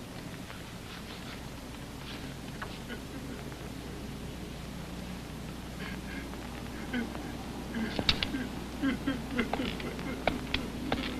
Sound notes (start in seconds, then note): 8.8 crying